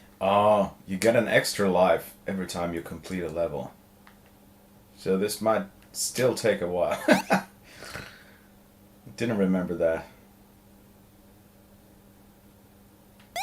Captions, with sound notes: Ohh, you get an extra life every time you complete a level. So this might still take a while. (laughing) Didn't remember that.